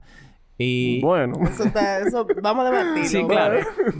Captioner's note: laughs